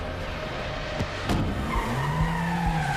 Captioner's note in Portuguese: pneus cantando